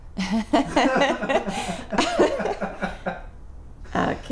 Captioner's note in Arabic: كلاهما يضحك